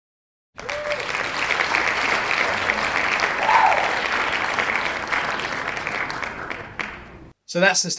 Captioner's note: cheers and claps